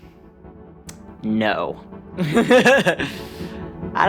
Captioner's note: laughs